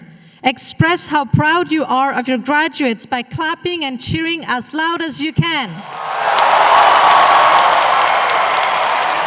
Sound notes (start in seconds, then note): 5.8 applause